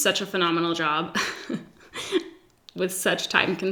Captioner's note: giggles